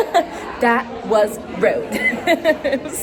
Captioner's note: laughs